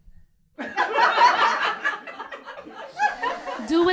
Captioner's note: laughter